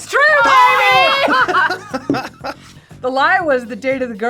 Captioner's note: both laugh